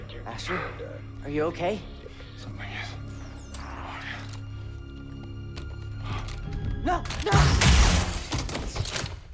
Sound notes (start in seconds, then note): 1.9 breathless